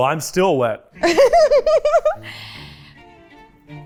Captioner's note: laughing